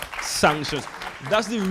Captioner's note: audience applauds